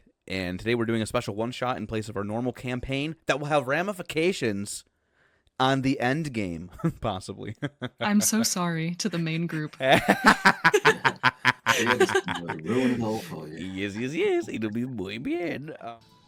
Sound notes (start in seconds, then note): 9.9 laughter